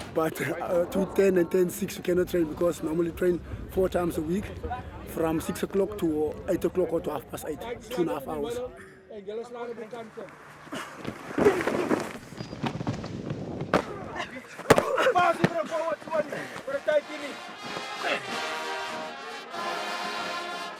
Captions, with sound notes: but two-ten and ten-six you cannot train because we train four times a week, from six o'clock to half past eight. Two and a half hours. (grunting) [SPEAKING IN AFRIKAANS]